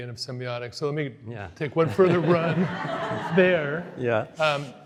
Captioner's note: audience laughs